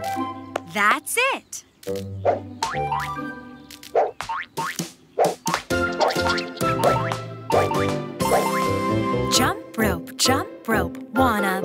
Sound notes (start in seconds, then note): 3.4 rope smacking; 5.3 fast upbeat music